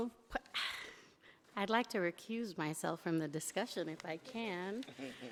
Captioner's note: sighs